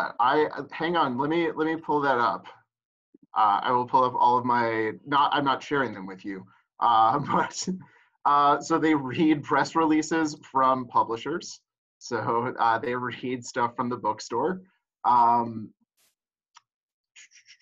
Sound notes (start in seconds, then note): 7.0 laughs